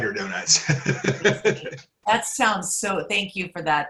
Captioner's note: laughs